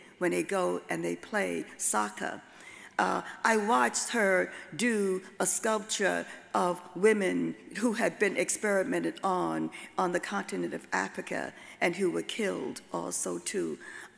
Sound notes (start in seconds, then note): none